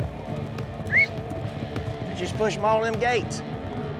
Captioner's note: whistles